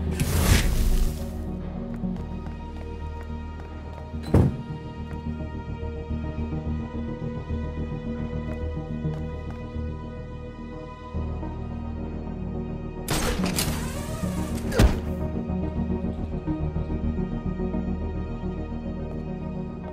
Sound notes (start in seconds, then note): 0.1 flash electricity, punch sound; 4.2 door closes